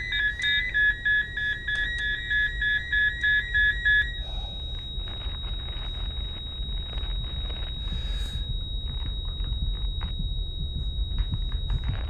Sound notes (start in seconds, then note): 5.5 heart monitor flat lining